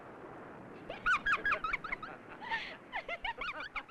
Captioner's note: Jane giggling